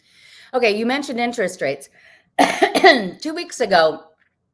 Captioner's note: coughs